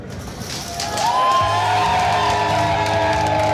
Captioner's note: cheering